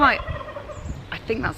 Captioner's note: turkey gobbles